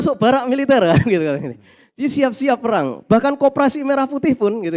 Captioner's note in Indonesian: tertawa